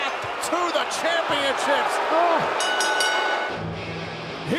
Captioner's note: bell ringing